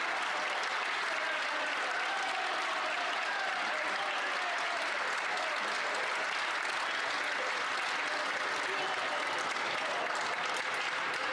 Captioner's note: some Applause